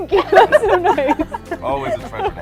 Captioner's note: laughter